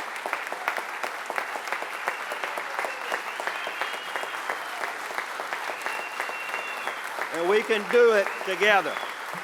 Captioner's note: applause